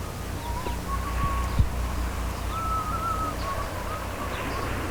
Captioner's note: Daniel whistling